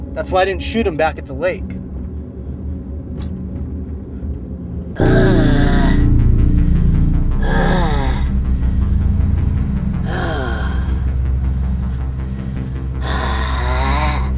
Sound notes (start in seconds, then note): 5.0 Jermaine growling; 5.0 scary music